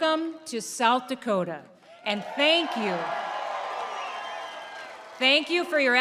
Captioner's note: applause